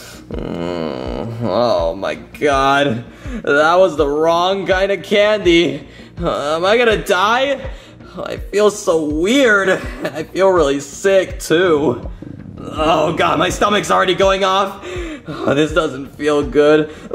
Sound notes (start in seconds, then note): 0.1 Junior groaning; 12.1 stomach growling